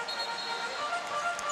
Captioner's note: whistle blows